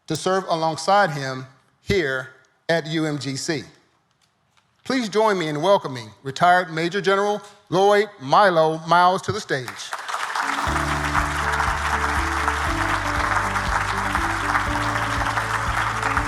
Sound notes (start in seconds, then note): 9.7 audience applauding